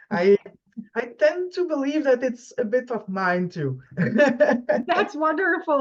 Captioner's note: laughs